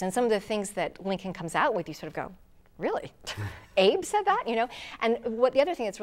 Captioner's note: laughing